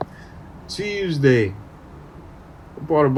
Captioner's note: baltimore accent